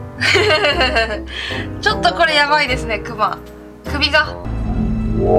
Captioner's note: laugh